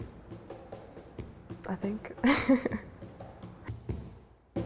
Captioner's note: laughing